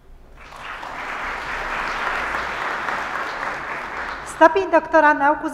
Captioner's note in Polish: oklaski